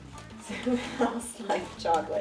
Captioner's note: chuckles